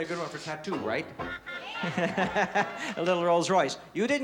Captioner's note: laughs